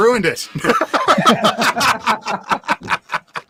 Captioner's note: laughing